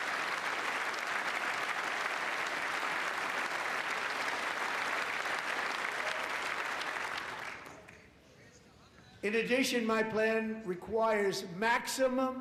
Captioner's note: applause